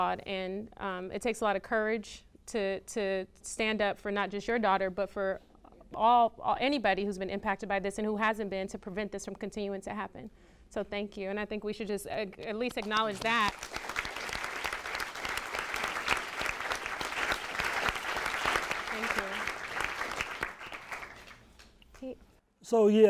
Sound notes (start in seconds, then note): 13.2 audience claps